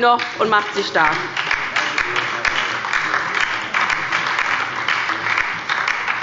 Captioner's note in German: Beifall bei der LINKEN und der SPD